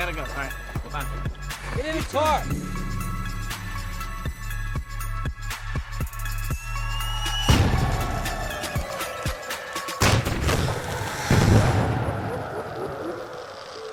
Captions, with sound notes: All right, bye. Get in the car! - Eat some! [electronic music] [fireworks exploding]